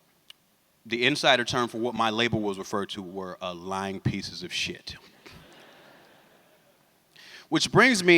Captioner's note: laughter